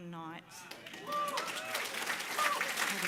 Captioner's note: cheering, applause